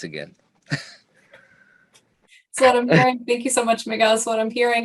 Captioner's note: chuckling